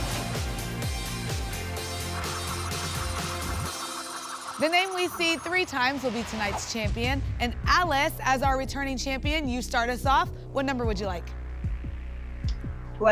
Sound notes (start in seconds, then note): 2.2 spinning sounds